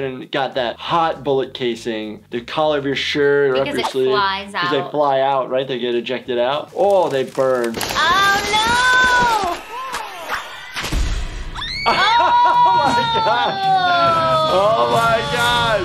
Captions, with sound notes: and got that hot bullet casing. The collar of your shirt. - Because it flies out. - 'Cause they fly out, right? They get ejected out. Oh, they burn. - Oh, no! (chaotic music) (woman screams) - (laughs) Oh my gosh! - Ooh! - Oh my gosh!